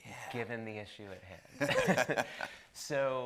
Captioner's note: both laughing